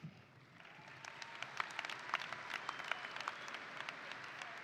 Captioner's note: audience applauding